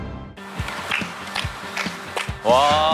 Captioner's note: clapping